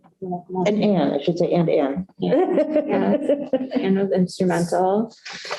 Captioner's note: laughter